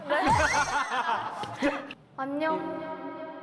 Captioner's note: laughing